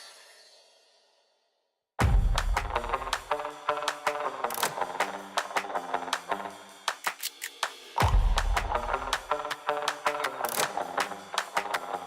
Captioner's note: applause